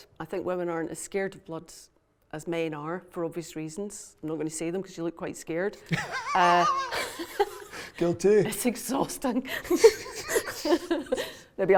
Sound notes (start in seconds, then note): 5.9 laughs; 9.6 both laughing